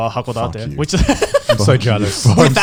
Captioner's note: laughing